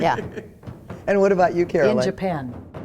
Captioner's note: laughs